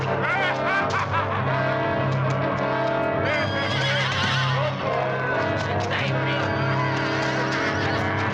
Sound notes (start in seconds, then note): 3.3 horses whinnying